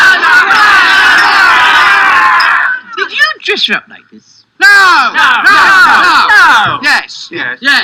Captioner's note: crowd